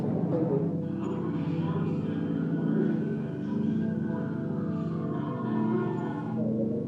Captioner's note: soft music; people chattering; people chattering; soft music